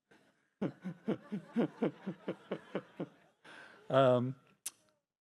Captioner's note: laughter